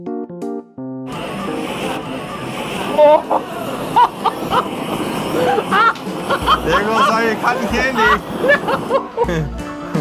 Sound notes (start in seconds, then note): 1.0 blowtorch; 4.2 maniacal laughter